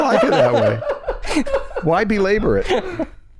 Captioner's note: laughter